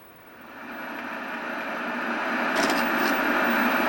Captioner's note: TV static